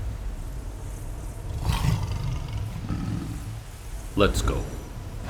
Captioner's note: purr